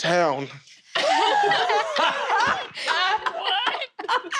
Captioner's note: confused laughter